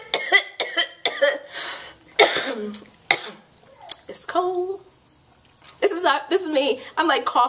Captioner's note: coughs